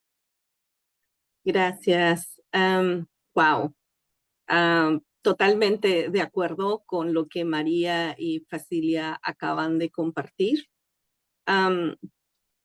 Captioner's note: speaking in Spanish